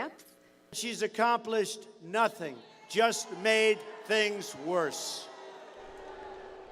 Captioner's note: booing